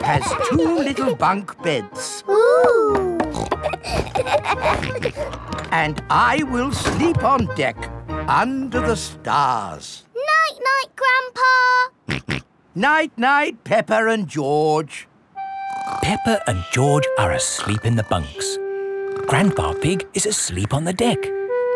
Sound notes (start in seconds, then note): 3.2 snorts, laughs; 12.1 snorts